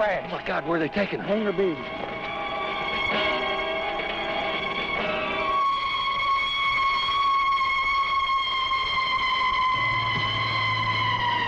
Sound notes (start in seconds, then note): 5.6 siren wailing